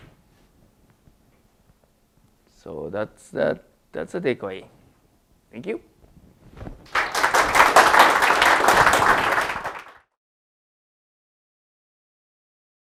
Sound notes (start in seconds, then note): 9.3 applause